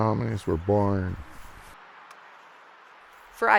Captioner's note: wind gusting